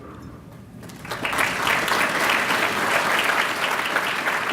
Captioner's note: applause